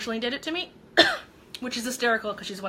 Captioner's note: coughing